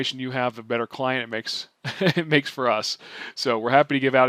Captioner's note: chuckles